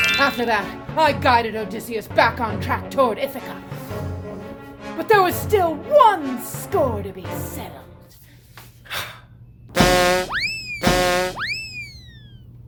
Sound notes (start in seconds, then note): 9.7 slide whistle; 10.8 clown horn